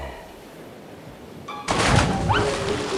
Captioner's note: none